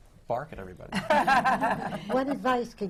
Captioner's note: laughter